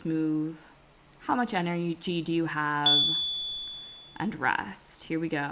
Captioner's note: chime